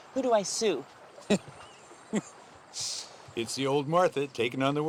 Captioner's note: laughs